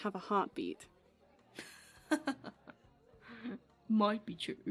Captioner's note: James laughs